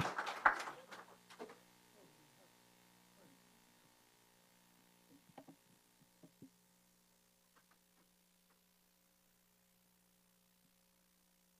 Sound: applause

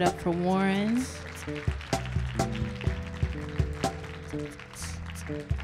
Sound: audience applauding

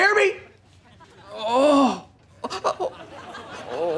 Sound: groaning

